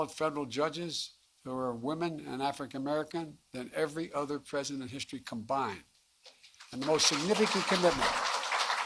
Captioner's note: applause